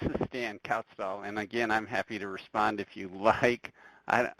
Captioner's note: laughs